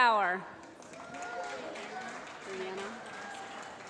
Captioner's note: applause